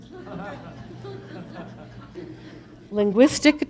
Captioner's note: audience laughs